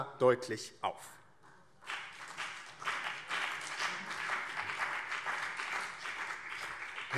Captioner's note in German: Beifall BÜNDNIS 90/DIE GRÜNEN und CDU